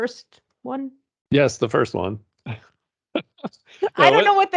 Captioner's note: laughing